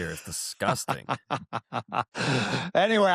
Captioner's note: laughter